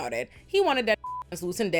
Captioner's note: beep